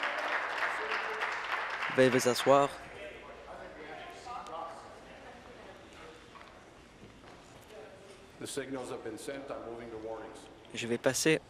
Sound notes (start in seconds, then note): 1.9 applause; 6.9 conversation din